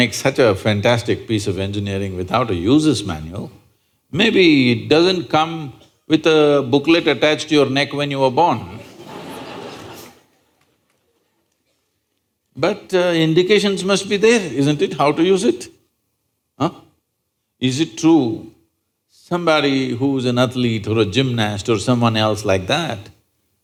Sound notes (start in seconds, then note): 11.7 laughter